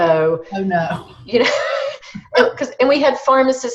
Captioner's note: laughs